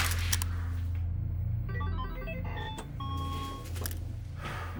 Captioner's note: happy game chime; relieved exhale